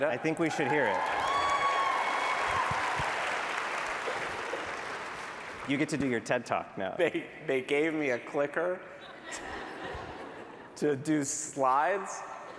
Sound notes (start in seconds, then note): 0.4 applause